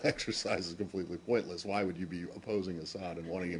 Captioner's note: laughter